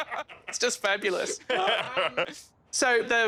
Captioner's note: laughing